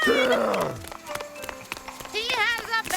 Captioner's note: footsteps tapping